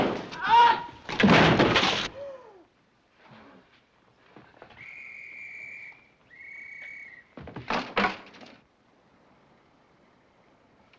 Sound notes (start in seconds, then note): 0.2 groans; 4.7 whistle blowing